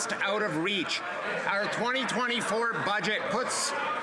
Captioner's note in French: voix de l'interprète